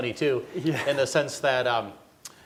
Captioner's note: audience laughing